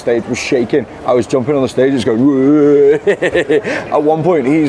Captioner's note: laughs